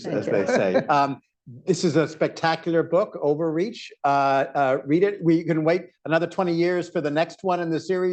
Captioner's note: laughter